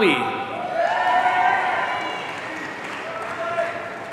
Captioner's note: audience cheering